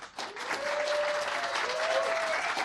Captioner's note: applause